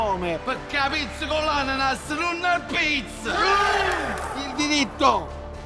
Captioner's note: all exulting